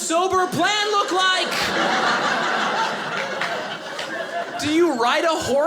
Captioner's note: audience laughing